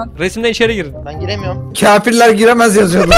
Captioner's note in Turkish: gülüşme sesleri